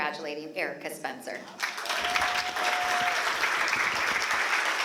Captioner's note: applause